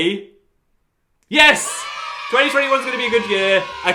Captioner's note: cheering